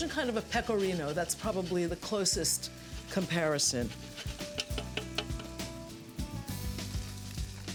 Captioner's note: taps on grater